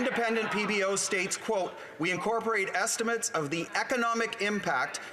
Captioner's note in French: voix de l'interprète